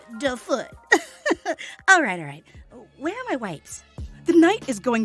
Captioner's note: laughing